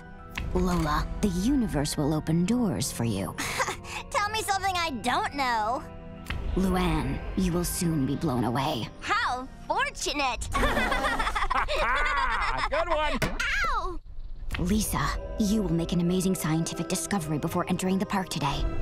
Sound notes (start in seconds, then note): 10.5 laughing